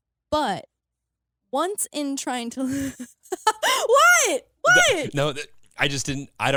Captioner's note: laughs